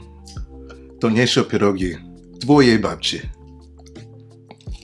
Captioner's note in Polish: mówi po polsku